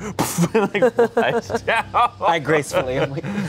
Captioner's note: everyone laughs